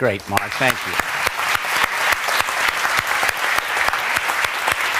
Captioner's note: applause